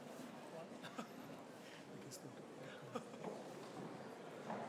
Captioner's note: background chatter